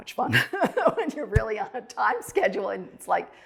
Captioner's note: chuckles